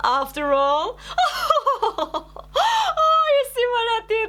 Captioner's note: laughing